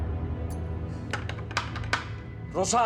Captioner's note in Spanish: Toques en la puerta